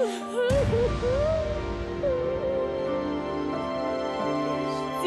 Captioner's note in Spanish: llanto de sara